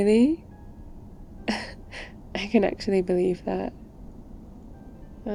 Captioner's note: laughs